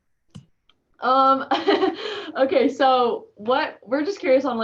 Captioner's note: laughing